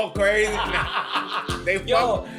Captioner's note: laughs